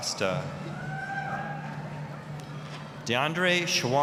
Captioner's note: applause, cheering